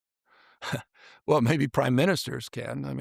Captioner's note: chuckles